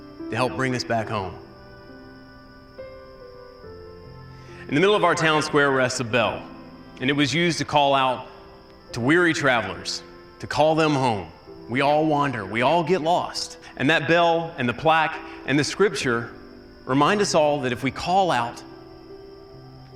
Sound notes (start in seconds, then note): none